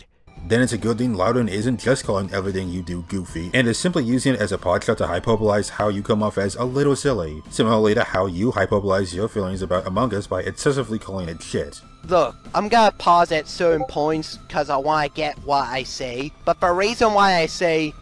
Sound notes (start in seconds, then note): 13.7 Discord ping